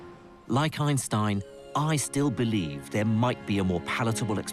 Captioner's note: voiceover